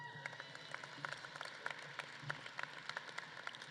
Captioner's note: audience claps